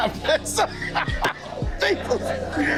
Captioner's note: laughing